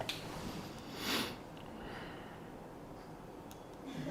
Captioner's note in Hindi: नाक से की जाने वाली आवाज़